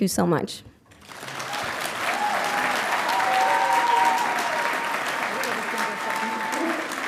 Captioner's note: audience applauding and cheering